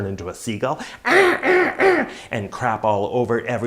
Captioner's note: mimics cry of seagull